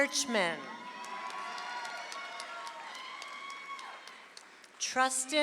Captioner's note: audience applauds